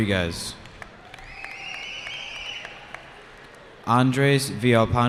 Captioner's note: cheering